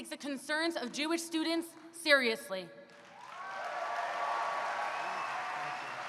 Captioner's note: applause